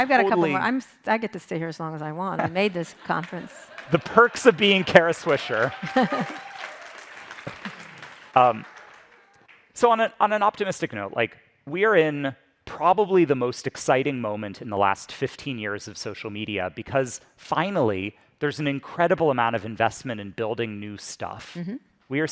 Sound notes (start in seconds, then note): 5.8 audience applauding; 5.8 audience cheers